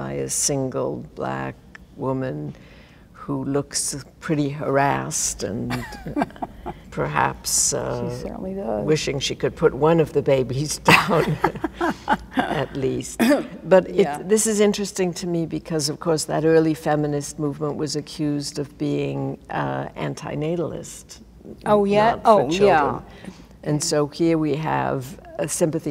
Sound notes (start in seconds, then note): 10.9 laughs